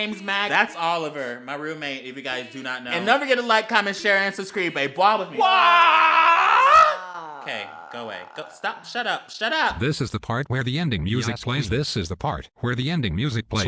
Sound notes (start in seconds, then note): 5.3 simultaneous BWAH